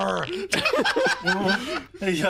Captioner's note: laughs